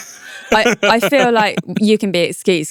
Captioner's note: laughs